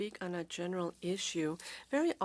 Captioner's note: speaking French